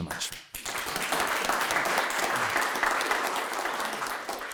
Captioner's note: audience clapping